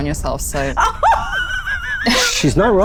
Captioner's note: laughs